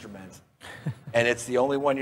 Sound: laughs

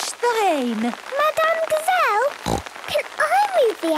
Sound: snorting

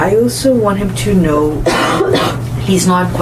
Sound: coughs

